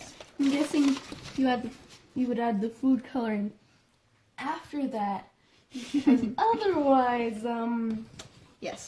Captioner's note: laughs